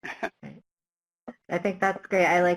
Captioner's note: laughs